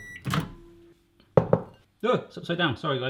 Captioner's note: microwave beeping